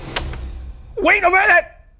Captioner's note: tape clicks